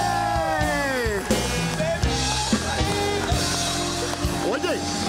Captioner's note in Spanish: Aplausos